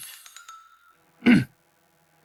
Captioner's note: cough